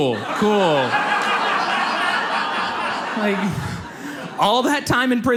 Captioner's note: audience laughs